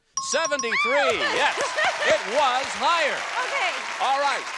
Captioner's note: exclaims